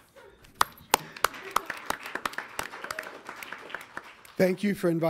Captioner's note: audience applauds